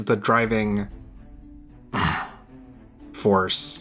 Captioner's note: grumble